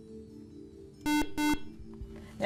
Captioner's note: buzzer